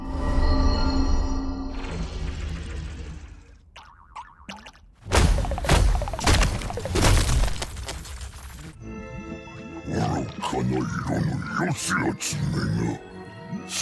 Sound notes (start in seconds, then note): 3.8 Gloink boinking softly